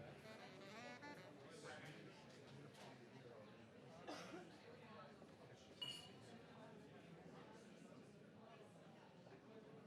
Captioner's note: background chatter continues for next few minutes